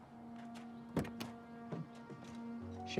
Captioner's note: door open close